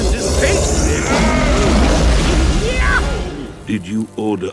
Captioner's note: roars